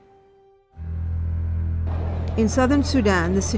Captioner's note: suspenseful music; crowd murmuring; voiceover